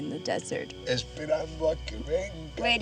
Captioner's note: speaking spanish